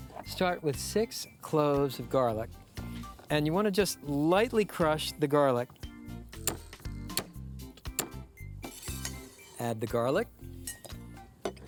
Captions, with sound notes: START WITH SIX CLOVES OF GARLIC. AND YOU WANT TO JUST LIGHTLY CRUSH THE GARLIC. [SOFT BANGING] ADD THE GARLIC.